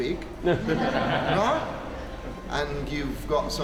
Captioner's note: laughter